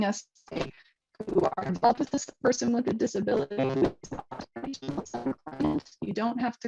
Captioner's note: distorted audio